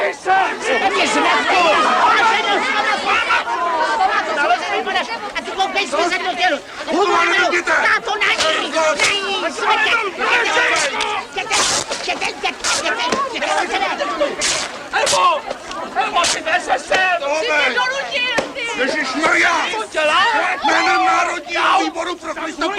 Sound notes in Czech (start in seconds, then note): 11.5 trhání látky